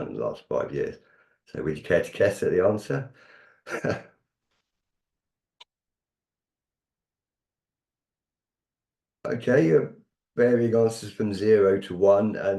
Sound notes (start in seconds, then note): 3.6 chuckles